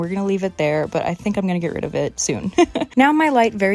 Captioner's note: laughing